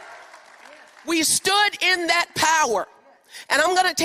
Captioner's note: applause